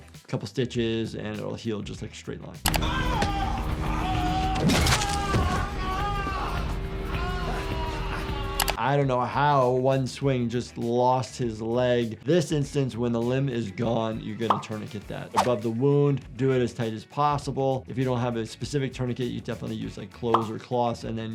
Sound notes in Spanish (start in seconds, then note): 2.6 música dramática; 2.7 hombre gimiendo